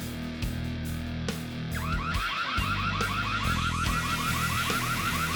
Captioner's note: fire alarm blaring